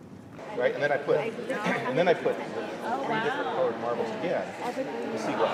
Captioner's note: attendees faintly speaking